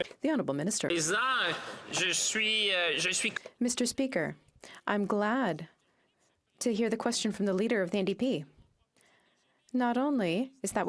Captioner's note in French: applaudissements